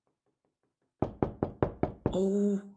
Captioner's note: knocking on the door